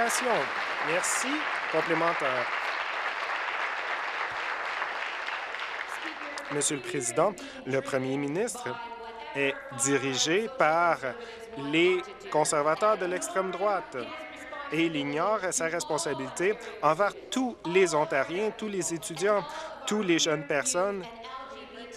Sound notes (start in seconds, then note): 1.9 voice trails; 4.8 applause